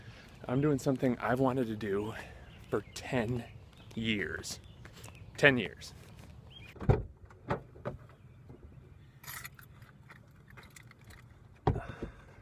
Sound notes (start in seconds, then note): 6.7 door opening